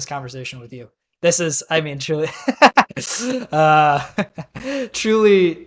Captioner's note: both laughing